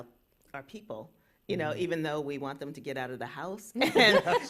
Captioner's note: laughter